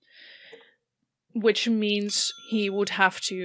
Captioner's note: bell dings